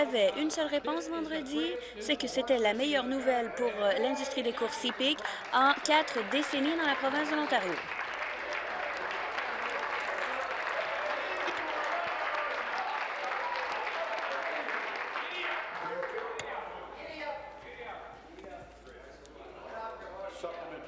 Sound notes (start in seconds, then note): 10.8 applause